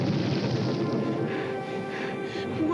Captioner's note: panting